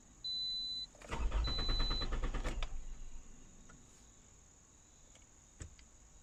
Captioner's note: engine cranking but not starting